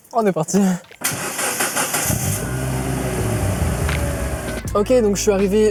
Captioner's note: good sounding 4 cylinders engine